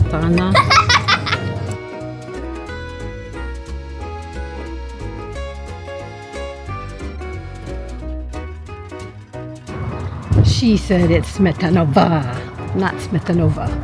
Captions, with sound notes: [Child giggles loudly at Miriam] She said it's Smetanová , not Smetanova!